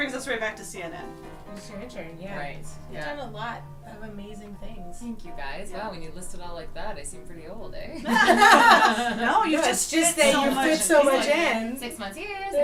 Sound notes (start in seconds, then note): 8.0 laughter